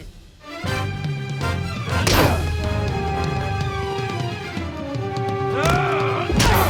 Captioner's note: dramatic music; punches landing